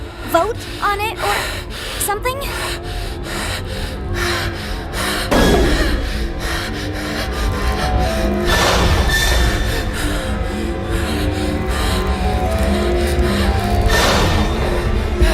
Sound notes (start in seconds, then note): 2.7 hyperventilating; 15.1 panicked whimpering